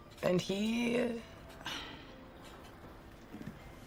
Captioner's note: sighs